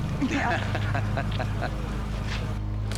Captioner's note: chuckling